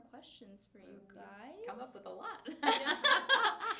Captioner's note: laughs